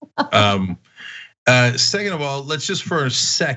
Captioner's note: laugh